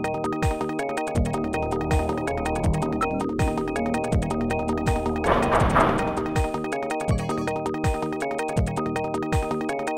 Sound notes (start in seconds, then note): 5.2 knocking